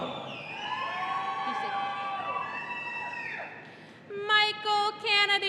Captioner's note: audience cheering